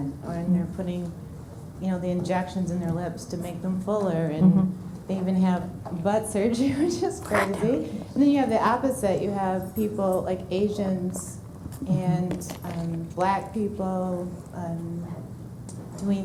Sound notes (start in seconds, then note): 7.3 laughing